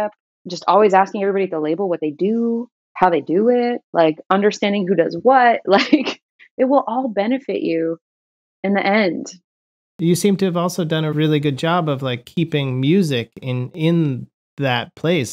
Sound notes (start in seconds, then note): 5.7 laughter